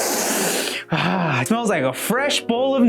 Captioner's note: smells aggressively